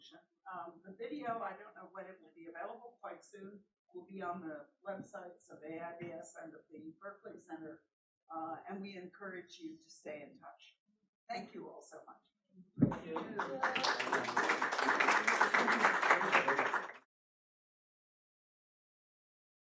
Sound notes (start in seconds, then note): 12.9 audience applauds